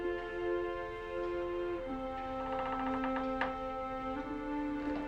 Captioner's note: door softly creaking